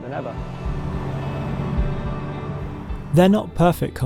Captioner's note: car engine humming